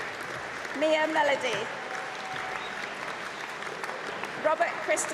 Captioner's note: applause